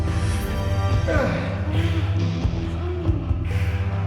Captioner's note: grunts